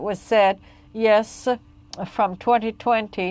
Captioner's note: speaking French